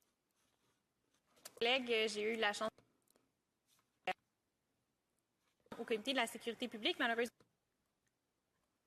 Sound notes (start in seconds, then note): 1.8 speaking FRENCH